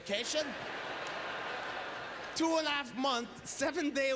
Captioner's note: audience laughter